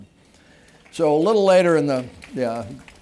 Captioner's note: applause